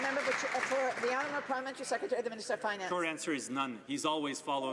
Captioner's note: some Applause